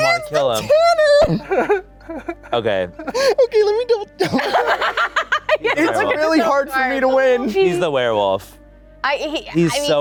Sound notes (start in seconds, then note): 4.2 laughing